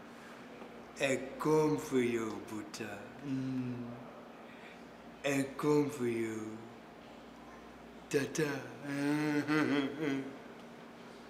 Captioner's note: speaking in foreign language